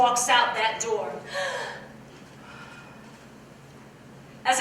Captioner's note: gasps